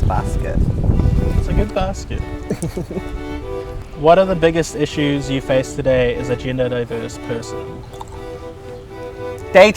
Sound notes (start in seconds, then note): 2.4 giggling; 8.2 soft music